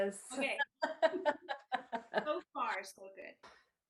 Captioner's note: laughs